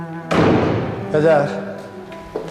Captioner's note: door closing